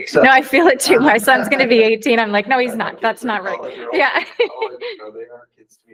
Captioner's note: haha